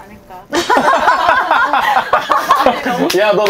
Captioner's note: laughter